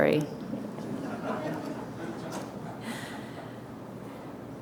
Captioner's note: audience laughter